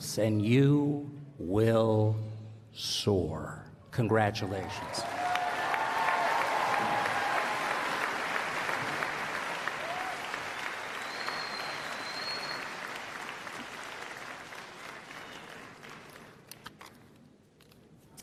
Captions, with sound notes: and you will sour, congratulations. [ Applause ]